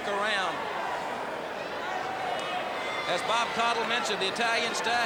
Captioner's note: crowd cheering